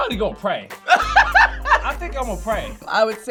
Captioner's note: laughs